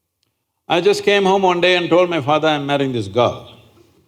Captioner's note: none